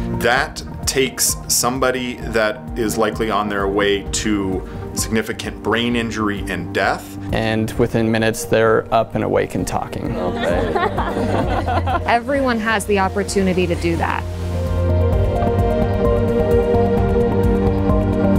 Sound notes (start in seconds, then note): 10.2 laughter; 15.8 outro music